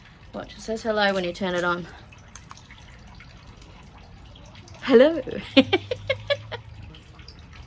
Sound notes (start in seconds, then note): 5.2 giggles